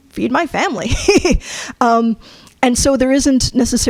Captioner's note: chuckles